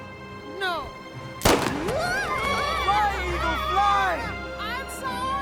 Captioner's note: eagle cries out wildly